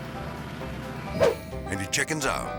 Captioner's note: transition whips